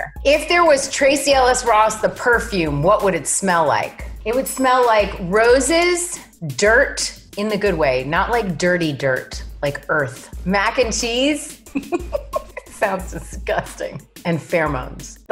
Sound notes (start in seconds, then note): 11.7 laughs